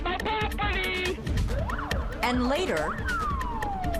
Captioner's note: police sirens